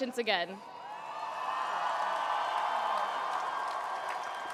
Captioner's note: cheering